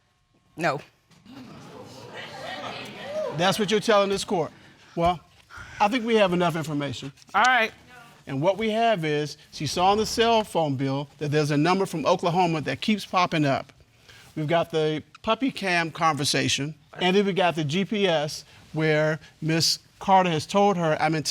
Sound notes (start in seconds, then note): 1.2 audience murmuring